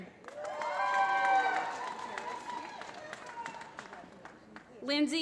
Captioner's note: applause